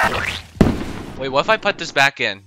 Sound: pop

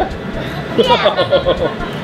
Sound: laughs

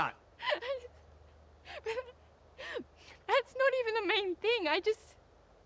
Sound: cries

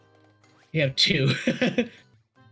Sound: laughs

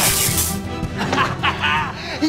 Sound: laughing

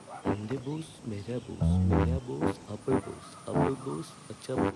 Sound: krishnakumar speaking gibberish

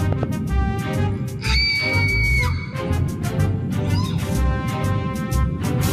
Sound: Bubbles screams

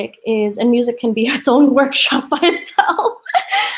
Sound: laughs

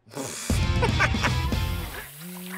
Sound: laughing

